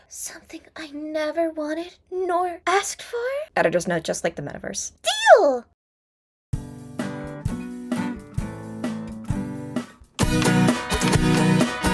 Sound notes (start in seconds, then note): none